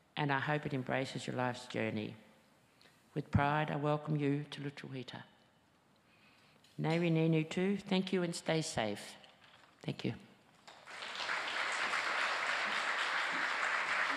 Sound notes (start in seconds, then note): 6.9 speaking foreign language; 10.6 audience applauds